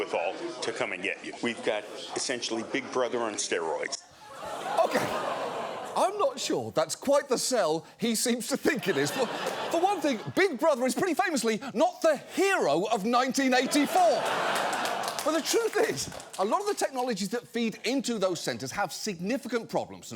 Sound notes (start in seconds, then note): 4.2 audience gasps; 8.5 studio audience laughs; 13.4 studio audience laughs